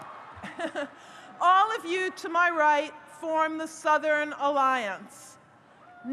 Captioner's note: laughs